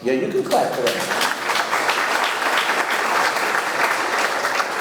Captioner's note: audience clapping